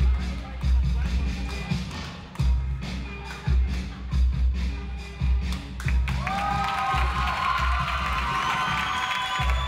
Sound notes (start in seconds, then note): 6.1 audience applauds